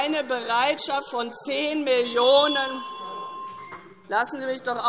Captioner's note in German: Weitere Zurufe - Glockenzeichen